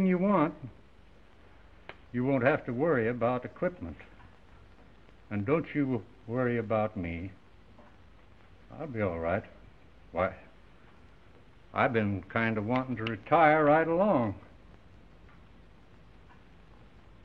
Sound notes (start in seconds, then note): none